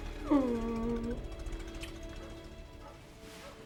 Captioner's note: car approaching; dog barking in distance